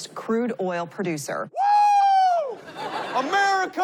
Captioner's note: screams